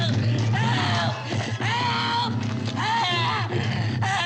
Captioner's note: Vanet yelling